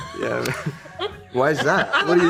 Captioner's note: Joy and Hunter laugh